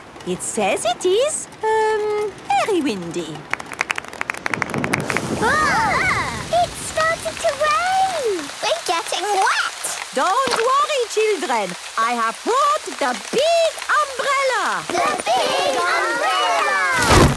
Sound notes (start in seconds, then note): 4.4 thunder; 5.4 exclamations